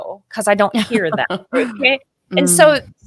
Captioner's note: laughing